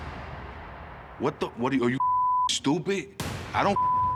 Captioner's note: heavy metal pounding; beep